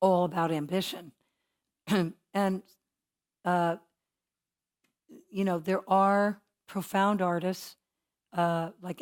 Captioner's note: cough